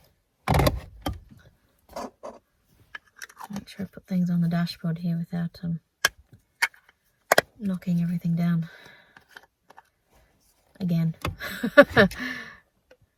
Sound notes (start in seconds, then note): 0.2 loud thud, clunk, and scrape; 7.0 click; 11.4 laughs